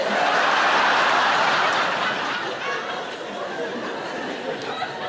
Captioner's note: audience laughs